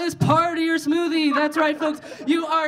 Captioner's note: audience laughing